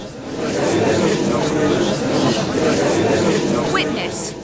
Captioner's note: gallery chattering